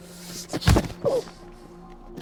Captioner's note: loud kicks